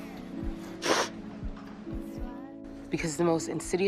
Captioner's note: Maddy sniffling